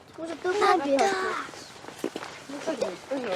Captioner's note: kids chattering